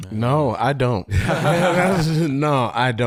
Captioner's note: laughing